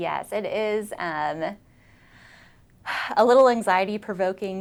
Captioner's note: sighs